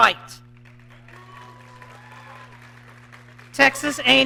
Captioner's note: audience clapping